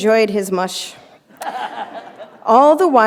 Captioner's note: laughter